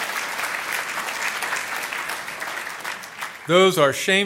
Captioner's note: applause